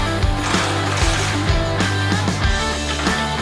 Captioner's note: upbeat Rock Music Continues; power Tool Turning; metal Clanking